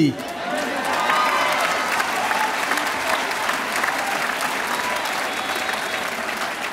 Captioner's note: audience cheering and applauding